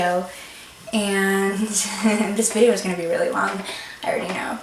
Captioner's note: laughs